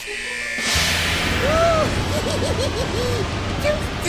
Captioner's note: evil laugh